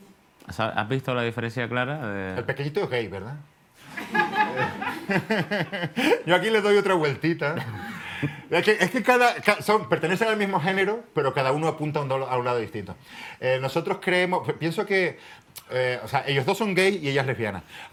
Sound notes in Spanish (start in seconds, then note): 3.8 Risas